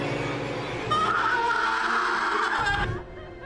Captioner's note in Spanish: Gritos